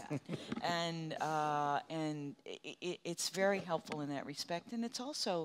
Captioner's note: chuckles in agreement